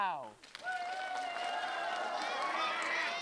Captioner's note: applause